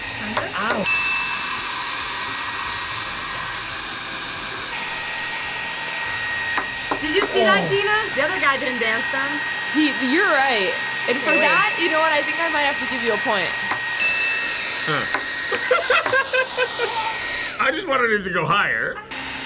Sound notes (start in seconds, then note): 0.8 bell rings; 1.0 blow dryer whirs; 13.9 bell rings; 15.5 laughs